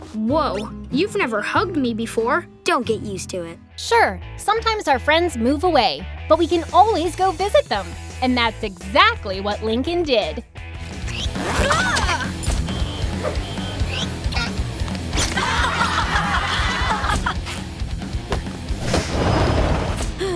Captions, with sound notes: Whoa, you've never hugged me before. Don't get used to it. Sure, sometimes our friends move away, but we can always go visit them. And that's exactly what Lincoln did. [screaming] [laughing]